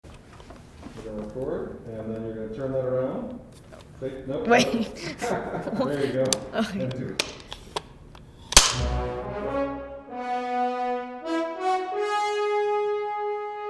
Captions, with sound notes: We're gonna record. And then you're gonna turn that around. (laughs) There you go. Take two. (slate clicks)